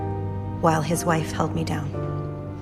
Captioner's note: voiceover